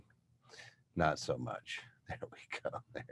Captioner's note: chuckles